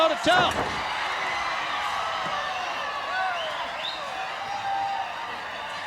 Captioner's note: crowd cheers; Knobbs slams